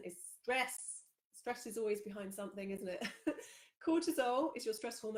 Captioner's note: laughs